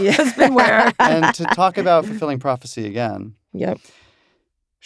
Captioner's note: laughs